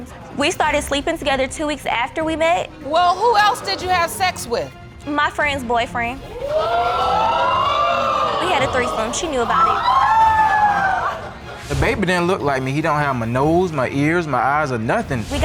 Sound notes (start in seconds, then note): 6.3 audience exclaiming; 9.9 audience gasp and exclaim